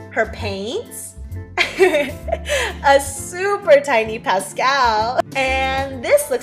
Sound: giggle

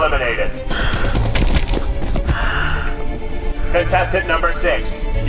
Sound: repeated paint splattering

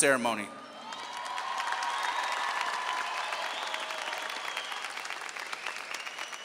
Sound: audience cheering and applauding

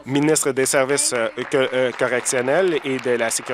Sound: applause

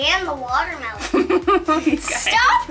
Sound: laughing

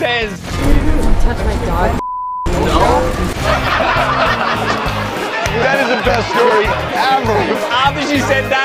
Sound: laughter

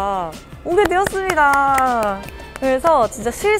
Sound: clap

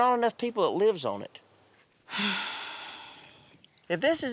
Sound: sighs

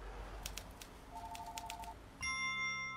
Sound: phone rings; keyboard clacks; bright chime

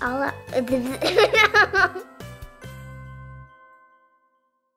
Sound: laughs

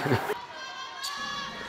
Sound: laughs

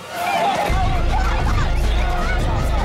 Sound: dramatic music; women shouting

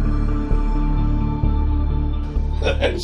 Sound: laughing

